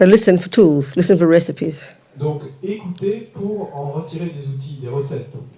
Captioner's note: French